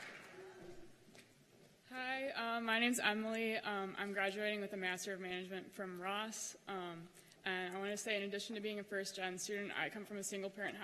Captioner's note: cheers and applause